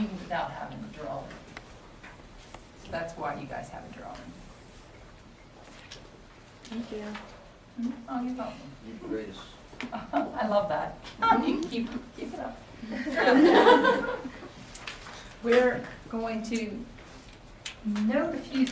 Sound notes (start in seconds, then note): 10.1 laughs; 12.8 students laugh